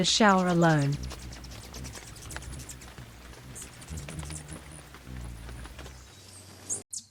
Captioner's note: birds chirping; raindrop on leaves; birds chirping and singing